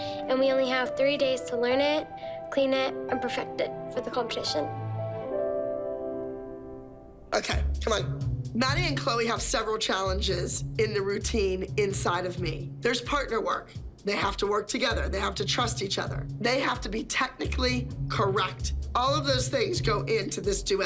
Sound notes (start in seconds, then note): none